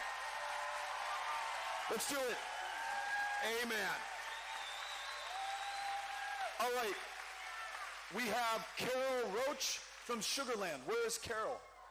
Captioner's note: cheering